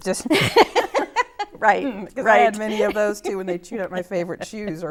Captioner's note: laughs